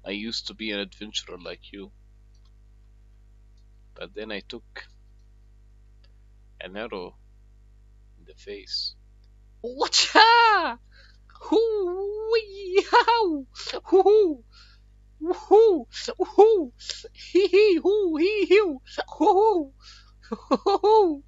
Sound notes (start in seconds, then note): 10.1 maniac martial artist noises